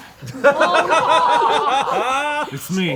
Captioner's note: group laughs